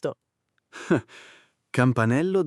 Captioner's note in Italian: Haha